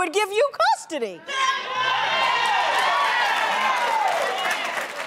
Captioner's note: audience applause